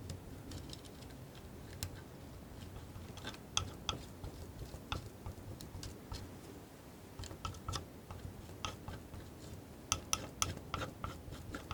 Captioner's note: tapping